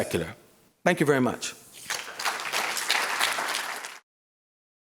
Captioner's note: applause